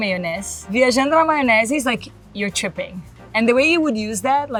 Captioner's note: speaks Portuguese